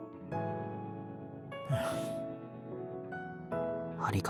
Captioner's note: sigh